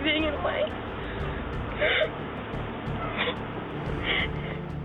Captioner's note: sobbing